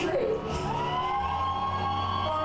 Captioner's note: crowd cheers